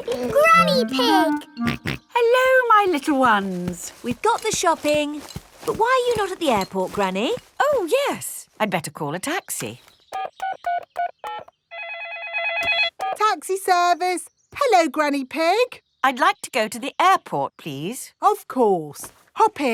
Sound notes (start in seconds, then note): 0.0 car honking; 0.0 laughing; 1.6 snorts; 11.7 phone ringing; 11.8 dialing